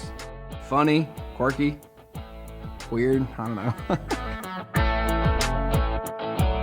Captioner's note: laughing